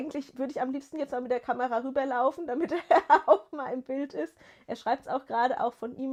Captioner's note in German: gelächter